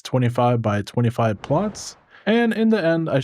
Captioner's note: whooshing